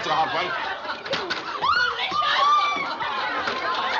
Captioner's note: chuckles; squealing